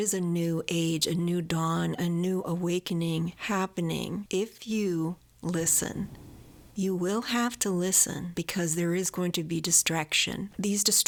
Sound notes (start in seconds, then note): 4.8 loud booms of fireworks